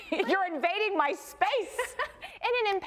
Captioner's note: laughs